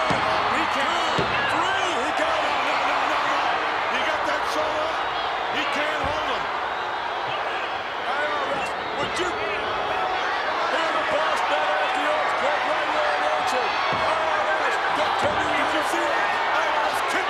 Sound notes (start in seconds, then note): 12.9 crowd cheering